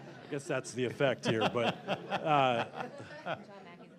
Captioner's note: laughter